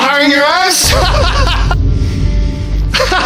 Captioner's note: laughs; laughing